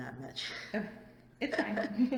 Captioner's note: laughs